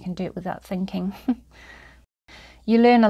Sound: chuckles

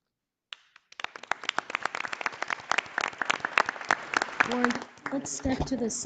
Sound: audience applauding

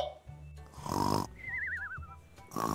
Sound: snoring

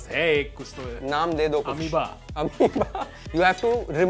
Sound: laugh

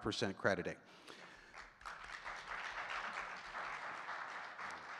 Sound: audience clapping

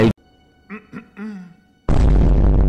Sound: ahem

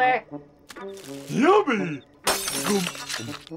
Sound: shattering

